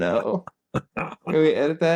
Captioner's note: laughing